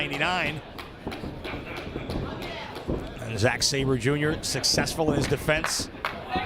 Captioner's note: applause